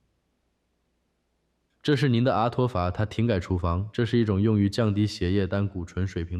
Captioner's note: non-english speech